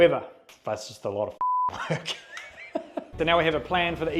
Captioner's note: beep